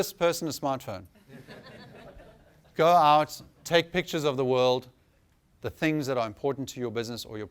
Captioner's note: laughter